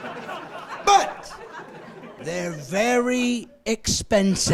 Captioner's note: laughing